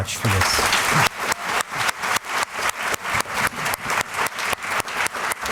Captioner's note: applause